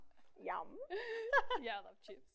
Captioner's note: laughs